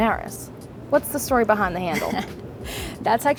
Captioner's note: chuckles